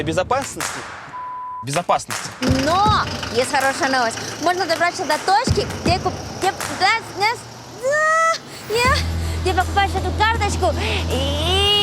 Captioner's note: stammering